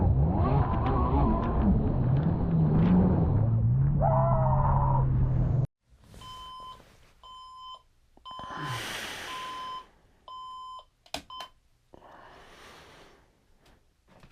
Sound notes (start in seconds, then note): 0.2 jet ski engine revving; 4.0 excited screaming; 6.2 alarm ringing